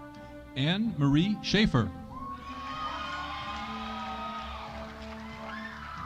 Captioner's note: audience applauding